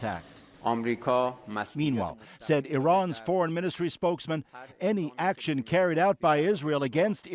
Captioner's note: speaking alternate language